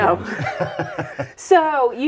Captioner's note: laughing